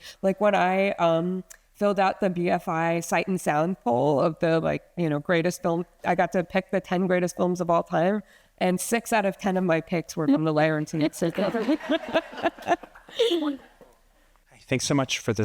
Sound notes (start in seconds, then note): 11.8 attendees laughing